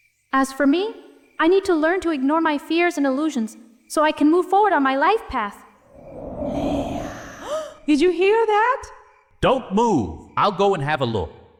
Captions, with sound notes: As for me, I need to learn to ignore my fears and illusions so I can move forward on my life path Leah (scary whisper) Did you hear that? Don't move. I'll go and have a look.